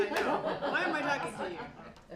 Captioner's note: laughter